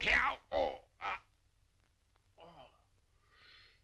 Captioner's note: grunting